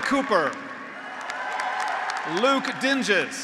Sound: graduates applauding; graduates cheering

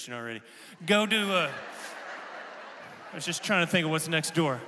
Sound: congregation laughing

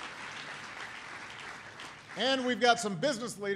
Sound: applause

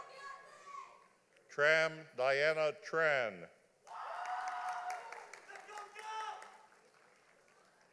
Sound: audience applauding

